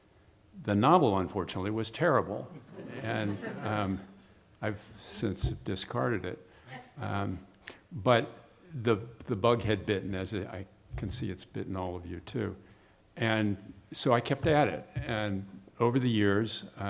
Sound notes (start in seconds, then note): 6.7 laughter